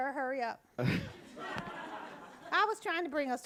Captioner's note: audience laughing